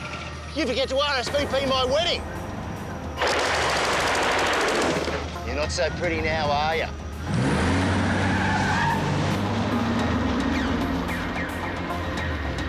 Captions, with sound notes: Did you forget to RSVP my wedding? (gunfire rattling) You're not so pretty now, are ya? (tires squealing) (tense music)